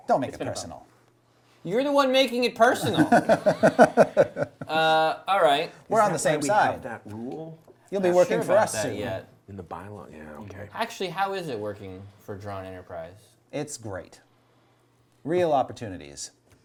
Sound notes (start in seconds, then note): 2.8 group laughs; 9.7 whispers